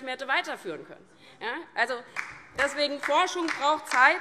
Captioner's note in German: Beifall DIE LINKE - Zuruf